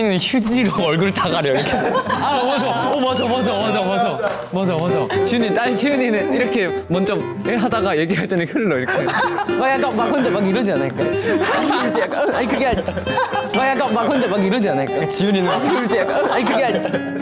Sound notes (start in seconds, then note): 11.0 haha; 11.0 laughing